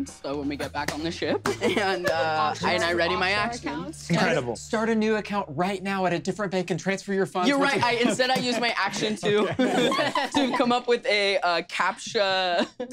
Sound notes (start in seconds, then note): 9.4 laughter